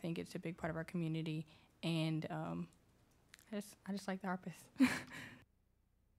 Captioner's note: laughs